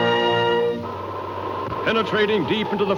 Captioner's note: wind whooshing